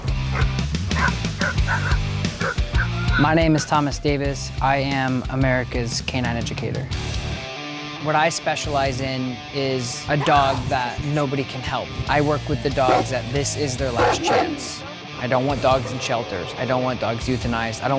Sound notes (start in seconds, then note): 1.4 barking